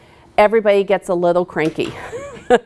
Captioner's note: laughs